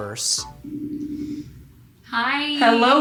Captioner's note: phone dialing